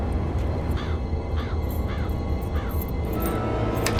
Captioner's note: bird cawing